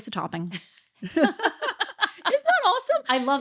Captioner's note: laughing